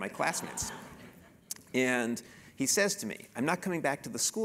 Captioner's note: laugh